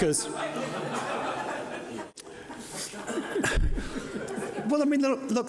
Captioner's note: audience laughing